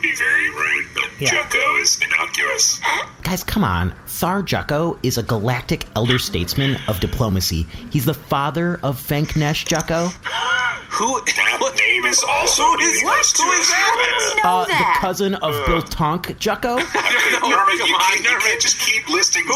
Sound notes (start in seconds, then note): 10.2 wheezes; 16.7 laughing